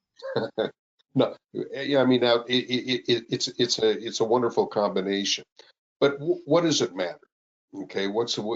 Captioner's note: laughs